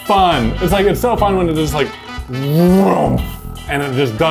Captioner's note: imitating machine